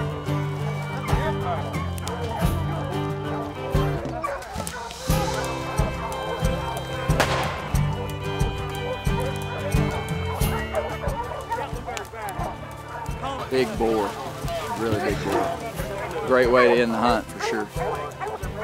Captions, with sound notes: (upbeat country music) (gunshot cracks) - Big boar. Really big boar. Great way to end the hunt for sure.